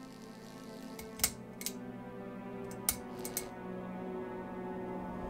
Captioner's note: electricity buzzing; light fixture clicking